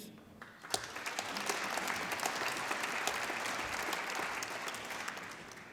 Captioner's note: applause